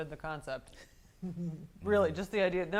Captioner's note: soft laughter